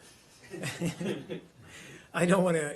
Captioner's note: laughter